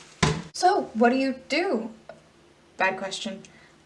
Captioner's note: none